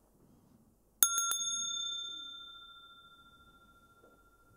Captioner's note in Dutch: rinkelt bel